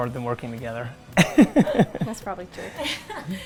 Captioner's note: laughter